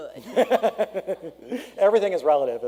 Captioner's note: laughter